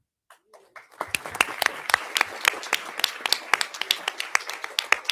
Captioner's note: audience applauding